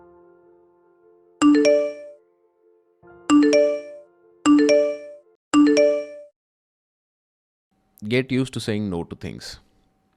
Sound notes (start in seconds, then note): 1.3 notifications